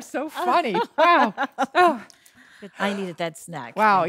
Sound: laughing

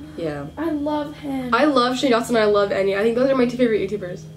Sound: gasps

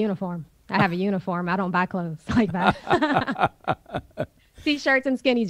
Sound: both laugh

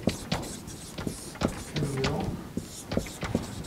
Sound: marker continues scribbling

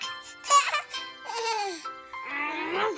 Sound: giggling

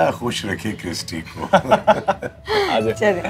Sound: laughs

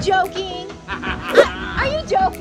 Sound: laughs

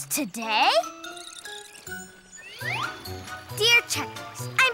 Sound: butterfly chirps

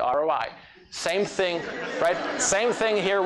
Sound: laughter

